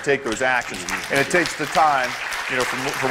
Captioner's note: applause